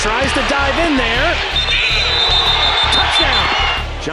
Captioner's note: whistle blows